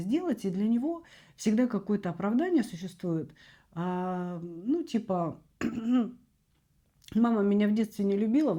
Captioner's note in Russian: откашливается